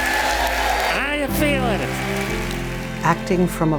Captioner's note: applause; cheers